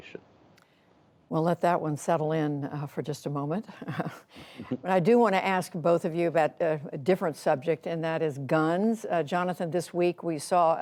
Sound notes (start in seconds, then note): 3.8 laughter